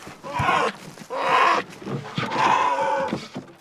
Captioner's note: bear cries